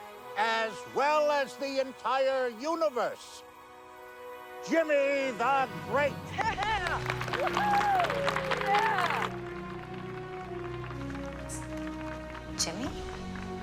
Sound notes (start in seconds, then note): 6.5 audience cheering